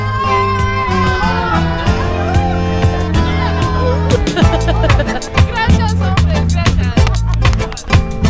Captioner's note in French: rires